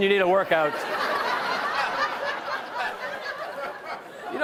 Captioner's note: laughter